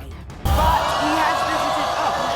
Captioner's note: hollering